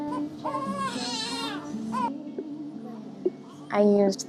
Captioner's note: baby crying